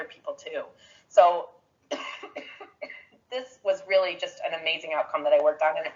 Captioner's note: coughs